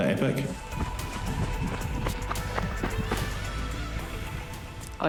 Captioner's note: footsteps crunching